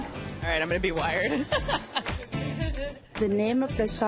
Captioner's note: chuckles